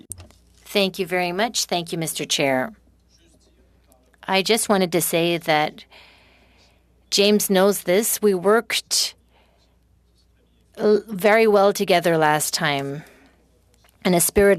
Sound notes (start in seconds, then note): 6.4 speaking FRENCH